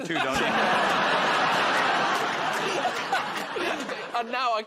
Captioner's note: laughter